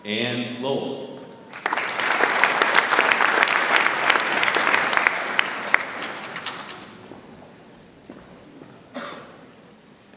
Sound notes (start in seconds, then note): 1.5 audience applauds